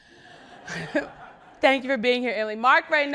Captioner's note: people laughing